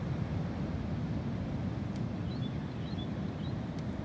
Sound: the sounds of the ocean’s waves grows softer

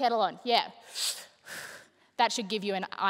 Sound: imitating blowing out smoke

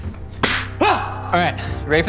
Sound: slapping; yelling

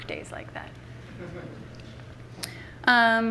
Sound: laughter from the audience

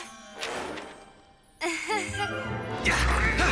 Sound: chuckles

